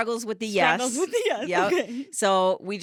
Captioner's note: laughing